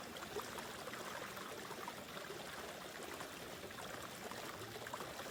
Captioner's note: water gushing continues